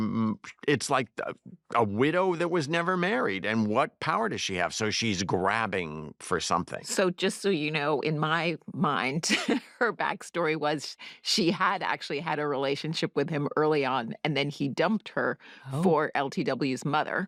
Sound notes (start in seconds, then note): 8.8 chuckles